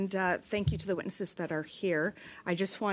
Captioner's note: speaking in French